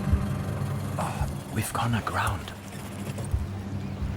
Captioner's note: in German